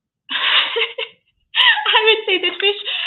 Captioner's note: laughs